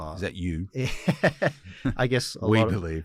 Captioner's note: son laughs